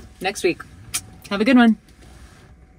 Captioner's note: lips smacking